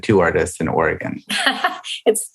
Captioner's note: laughs